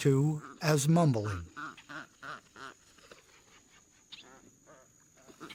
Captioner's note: ibises quacking